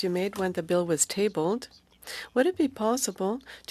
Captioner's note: speaking French